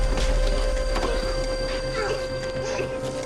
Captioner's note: coughing